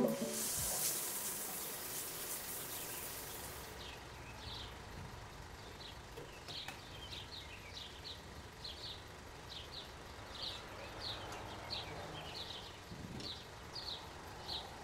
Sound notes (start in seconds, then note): 0.0 shower starts; 3.7 birds chirping